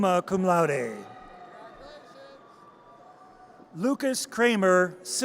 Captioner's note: audience cheers